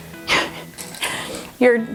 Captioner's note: laughs